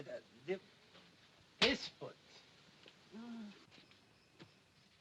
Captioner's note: slap